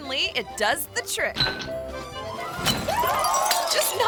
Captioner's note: glass shattering; bottle clinks